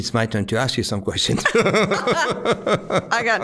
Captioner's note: both laughing